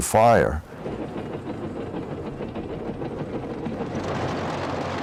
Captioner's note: tanks rattling